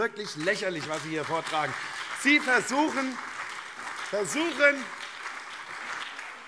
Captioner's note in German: Beifall CDU, SPD und BÜNDNIS 90/DIE GRÜNEN